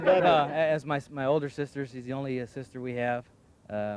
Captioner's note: laughing